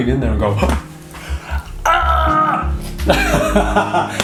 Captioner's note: strangled yelling; laughing